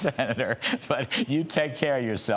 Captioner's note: laughter